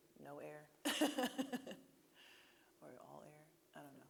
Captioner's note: laughing